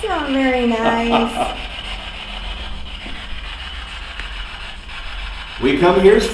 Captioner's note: static buzzing; laughing